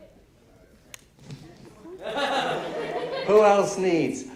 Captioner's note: laughter